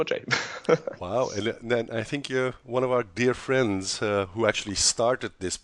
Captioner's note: laughs